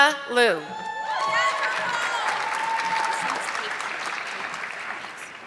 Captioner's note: audience clapping